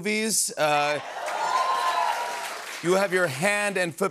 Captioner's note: applause